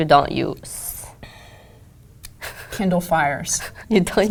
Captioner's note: laugh